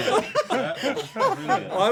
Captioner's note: laughter